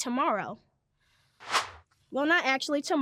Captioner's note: air whooshes